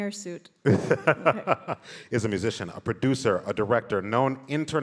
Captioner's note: laughs